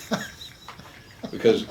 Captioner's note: chuckles